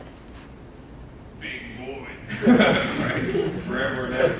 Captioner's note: laughing